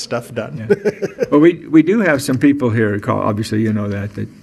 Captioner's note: chuckling